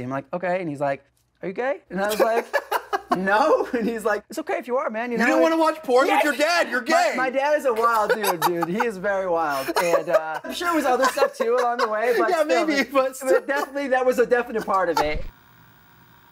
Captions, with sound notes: I’m like, "Okay." He’s like, "Are you gay?" [laughter] I was like, "No." He was like, "It’s okay if you are man. -You don’t want to watch porn with your dad, you’re gay. [laughs] -My dad is a wild dude, dude. He is very wild. I’m sure there was other stuff too along way, but- -Yes, maybe. [laughs] --still definitely that was a definite part of it.